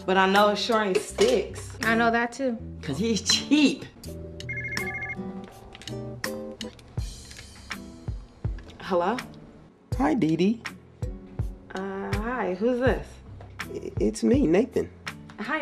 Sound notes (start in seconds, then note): 4.4 phone ringing